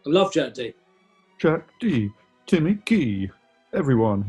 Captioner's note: raps